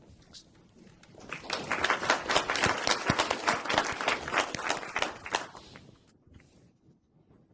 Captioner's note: applause